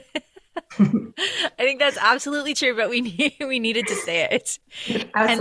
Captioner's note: laughter